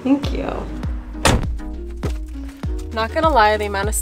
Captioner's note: car door closes